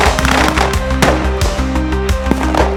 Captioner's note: gunfire